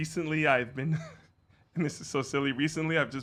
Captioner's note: laughs